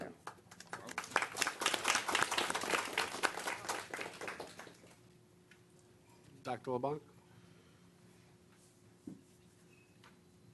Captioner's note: applause